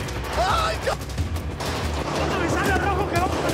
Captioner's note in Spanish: Disparos